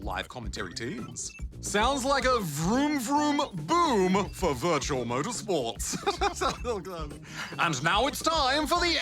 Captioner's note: laughs